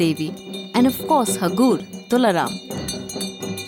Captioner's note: bell jingling; soft drumming